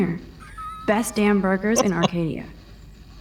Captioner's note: laughs